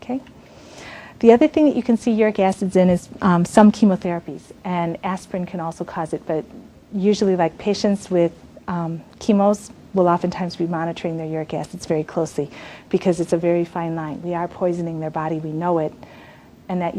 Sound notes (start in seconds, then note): none